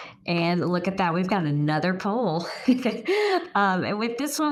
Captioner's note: chuckles